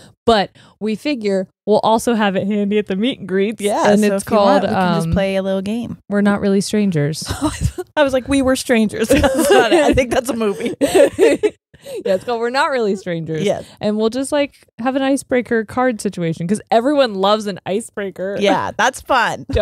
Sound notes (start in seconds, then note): 9.1 laughs; 9.1 both laughing